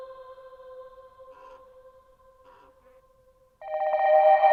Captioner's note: crows cawing; eerie music